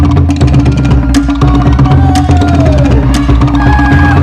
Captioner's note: cheering